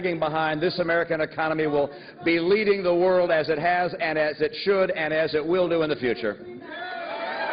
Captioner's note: crowd chanting "mitt"